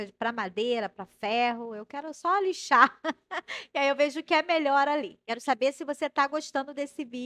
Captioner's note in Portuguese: risadas